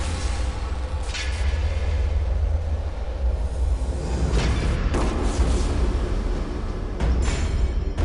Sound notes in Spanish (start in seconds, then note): 5.2 Disparo